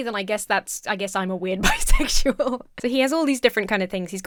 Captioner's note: laughs